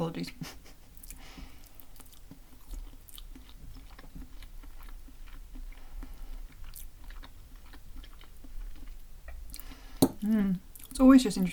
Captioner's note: chuckle